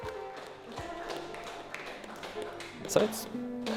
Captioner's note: applause